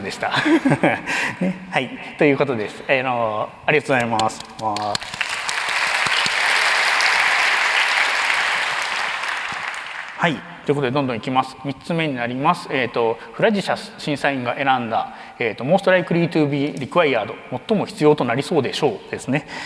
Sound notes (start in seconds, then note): 0.1 laughs; 4.0 applause